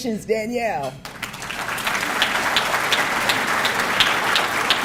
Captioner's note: audience clapping